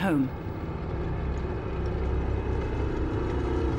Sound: tank rumbling

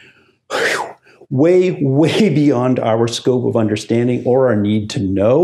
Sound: exhales

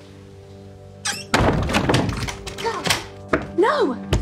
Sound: door locks

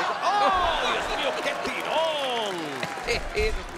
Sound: laugh

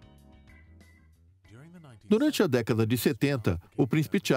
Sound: upbeat music; voiceover

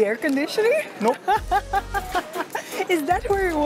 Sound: laughs

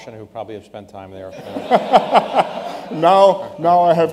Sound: laughter

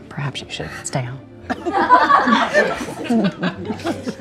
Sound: group laughing

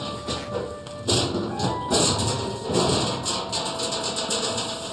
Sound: clanking

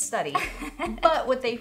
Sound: laughter

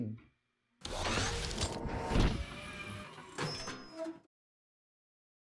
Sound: machinery buzzing

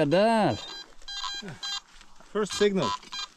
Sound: detector beeping

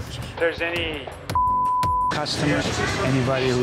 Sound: beep

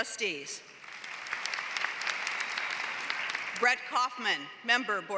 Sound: applause

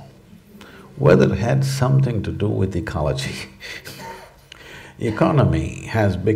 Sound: laughs

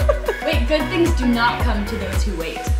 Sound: laughing

